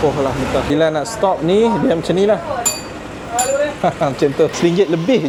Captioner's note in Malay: bell ring